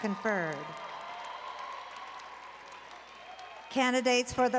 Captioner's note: applause and Cheering